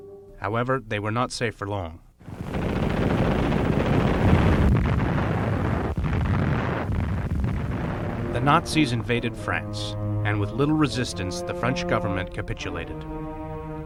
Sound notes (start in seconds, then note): 2.4 gunfire, explosions